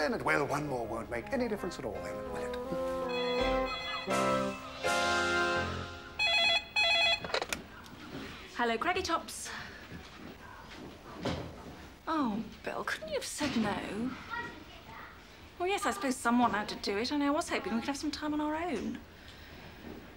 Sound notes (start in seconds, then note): 3.0 phone ringing